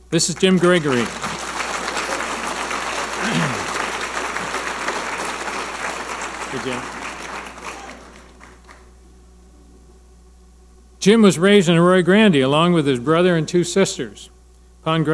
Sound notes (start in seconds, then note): 0.2 audience applauding